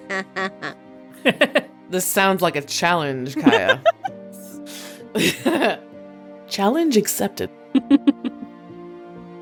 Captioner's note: chuckles